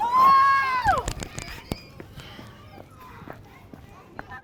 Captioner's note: yells